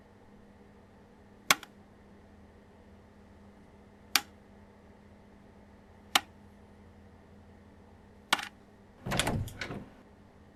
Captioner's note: mechanical clicking